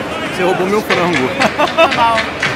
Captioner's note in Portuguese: risos